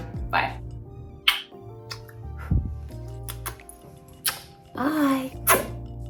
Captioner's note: all smacking kisses; smacks a kiss